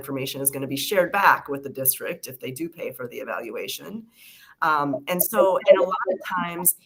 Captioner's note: feedback